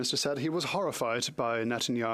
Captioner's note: speaking French